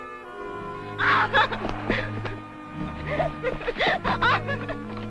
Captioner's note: Natalie shouts and laughs